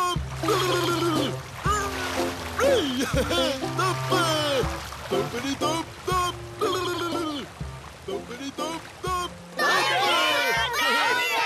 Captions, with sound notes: HEH HEH! THUMP! (GURGLES) (GARBLED GRUNTS AND LAUGHS) THUMPA! THUMPITY-THUMP-THUMP! (GURGLES)